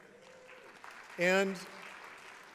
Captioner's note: applause